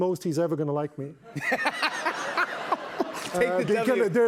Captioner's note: laughter